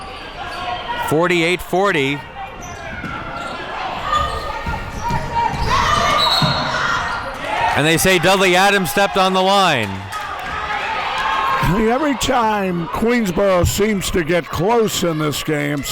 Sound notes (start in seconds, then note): 6.1 whistle blows